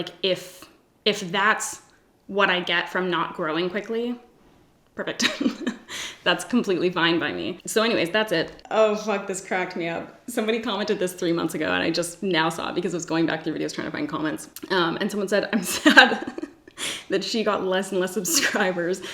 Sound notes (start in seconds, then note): 5.2 laughs